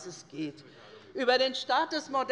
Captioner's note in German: Unruhe - Glockenzeichen des Präsidenten